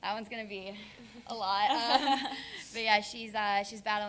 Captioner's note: laugh